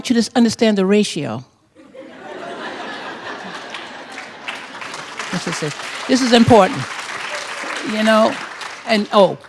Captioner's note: laughter